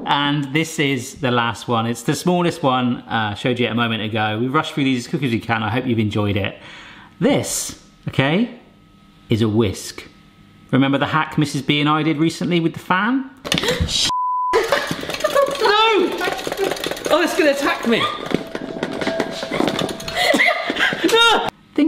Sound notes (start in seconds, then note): 13.6 gasps; 20.0 giggling